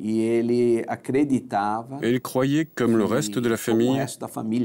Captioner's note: Portuguese spoken audio